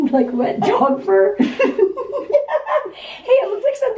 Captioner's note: both laughing